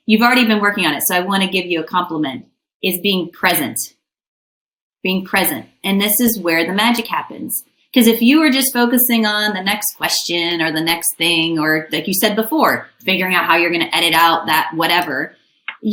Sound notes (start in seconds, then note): none